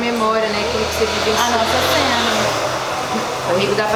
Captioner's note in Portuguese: som de moto passando